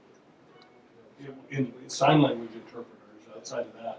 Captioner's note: voiceover